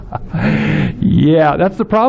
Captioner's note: laughs